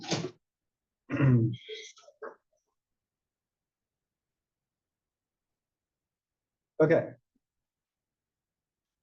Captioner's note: cough